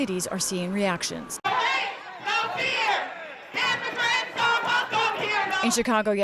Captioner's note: chanting